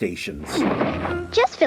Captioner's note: crash!